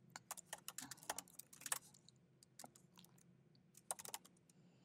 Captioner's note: keyboard clacking